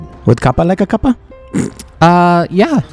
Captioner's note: snorts